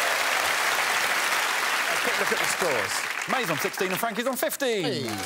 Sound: audience clapping and cheering

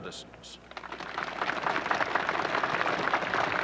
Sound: applause

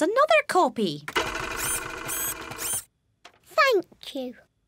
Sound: printer whirring

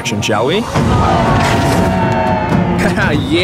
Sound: crowd cheering

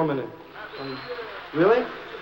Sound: whistling, applause

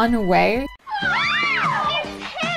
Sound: blood-curdling screams

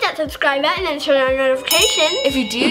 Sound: bell dinging

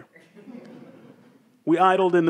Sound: audience laughs

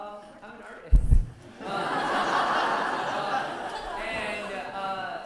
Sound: laughter

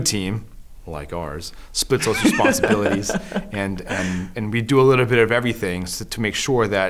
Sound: laughter

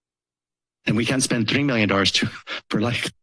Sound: laughs

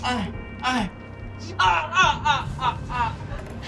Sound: Micke moans

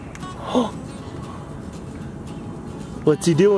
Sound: gasps

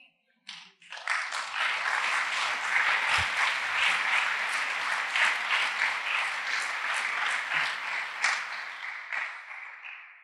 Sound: applause

